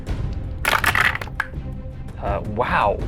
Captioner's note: dice clanks